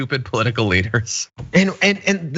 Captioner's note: laugh